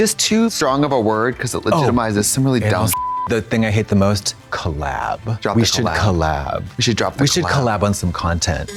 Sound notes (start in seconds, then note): 2.9 beep